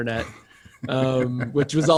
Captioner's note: laughs loudly